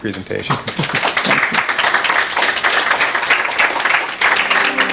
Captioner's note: audience clapping